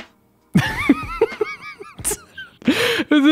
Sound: laughs

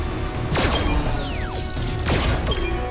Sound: ominous music; gun whizzing; upbeat music

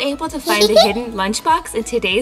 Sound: giggle

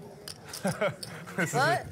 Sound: laughing

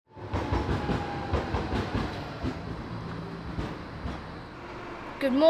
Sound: sound of tram arriving

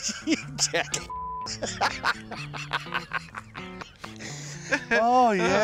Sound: laughter

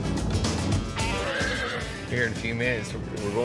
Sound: horse neighs

